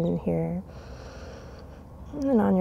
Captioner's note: takes deep breath